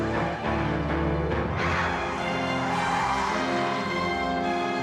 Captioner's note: tires squeal